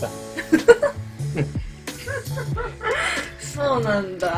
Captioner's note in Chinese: 嘆氣